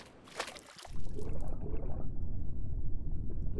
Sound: underwater sounds

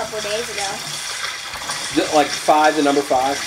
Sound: water splashing

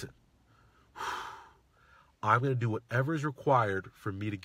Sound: exhales

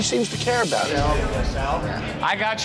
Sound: patrons chattering

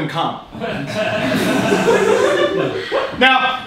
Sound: audience laughing

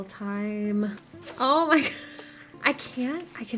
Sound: laughing

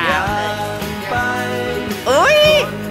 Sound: speaking Teochew word which means 'to eat'

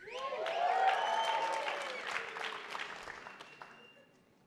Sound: attendees applauding

